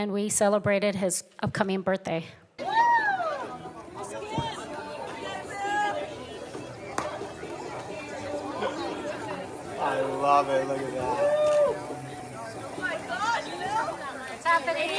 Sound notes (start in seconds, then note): 6.5 audience Cheering